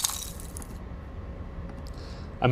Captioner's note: bottle smashing